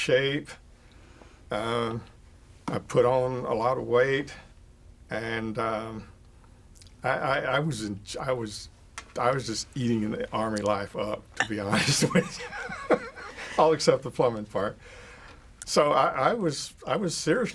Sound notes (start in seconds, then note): 10.1 laughing